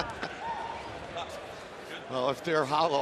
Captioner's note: laughing